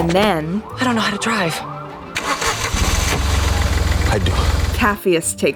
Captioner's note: car engine starts